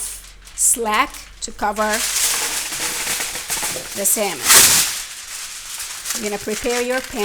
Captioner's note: foil crinkling